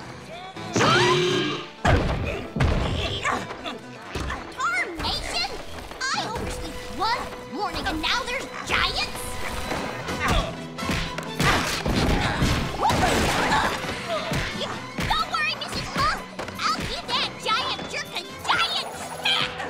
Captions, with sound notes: Huh? [grunting] Tarnation! I oversleep one morning and now there's giants? Don't worry, Mrs. Puff! I'll give that giant jerk a giant smack!